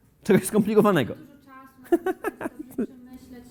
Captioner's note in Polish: śmiech prowadzącego